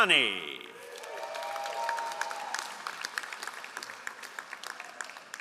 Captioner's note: all applauding